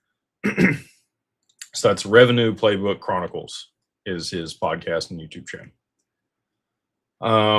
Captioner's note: clears throat